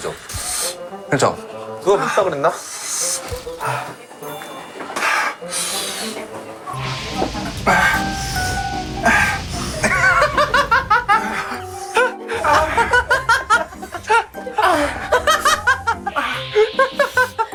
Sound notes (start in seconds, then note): 12.3 pant; 12.3 making weird groaning noises